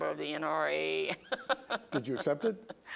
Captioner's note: laughs